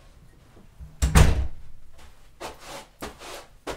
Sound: door closed; shoes scrubbed

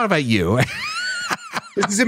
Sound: laughs

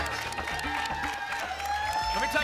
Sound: applause and cheering

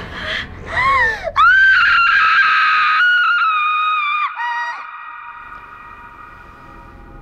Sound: screaming

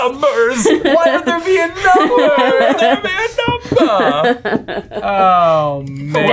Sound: laughing

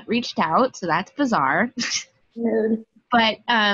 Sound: laughs

